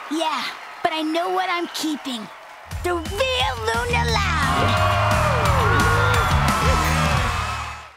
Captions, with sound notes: Yeah, but I know what I'm keeping. The real Luna Loud! [cheering]